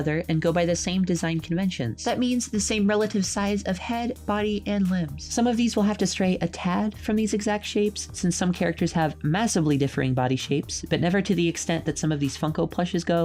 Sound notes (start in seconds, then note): none